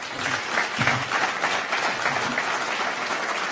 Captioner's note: applause